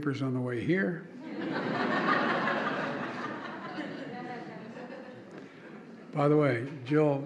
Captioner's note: laughter